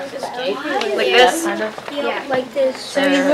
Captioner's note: chatter